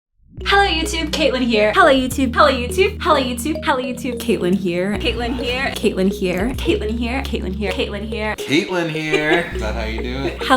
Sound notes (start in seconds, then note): 9.4 laughing